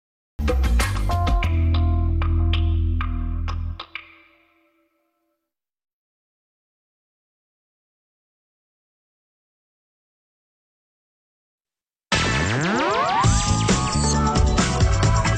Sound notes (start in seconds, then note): 0.4 optimistic music plays; 4.7 silence; 12.2 upbeat music playing